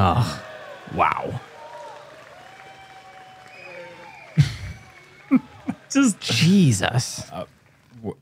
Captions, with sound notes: Wow. [applause] -[chuckles] He just-- -Jesus.